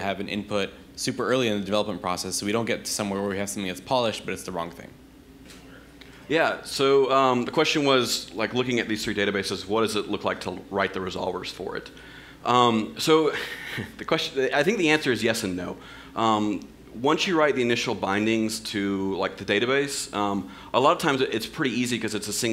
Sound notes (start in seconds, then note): 6.4 voiceover